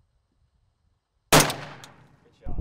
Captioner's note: gun shot